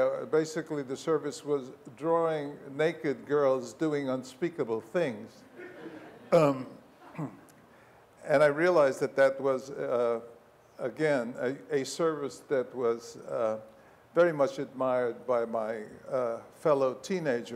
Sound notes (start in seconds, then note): 5.5 audience laughter